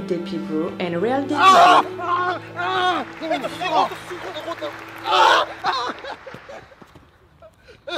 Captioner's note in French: Cris de douleur